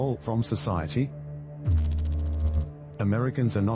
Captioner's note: electrical noise